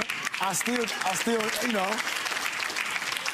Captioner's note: audience applauds